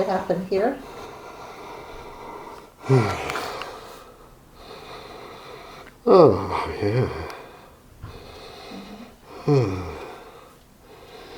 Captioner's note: breathing sounds